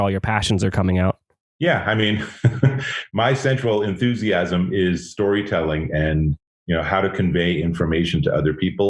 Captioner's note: laughs